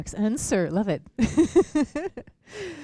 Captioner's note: laughter